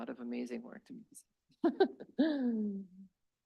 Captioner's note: laughs